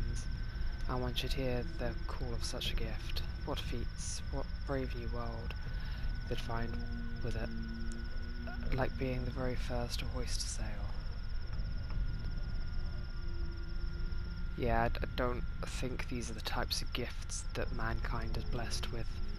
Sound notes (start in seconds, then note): none